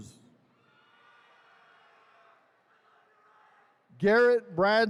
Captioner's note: attendees cheering